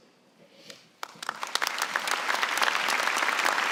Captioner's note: applause